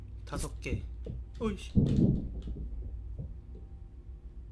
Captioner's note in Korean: 발소리